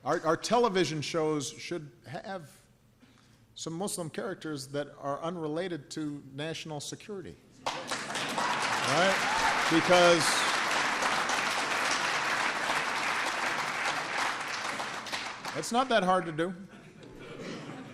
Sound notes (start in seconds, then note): 7.6 applause